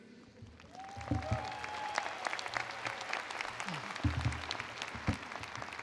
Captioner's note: attendees applauding